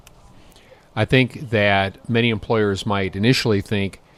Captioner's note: voiceover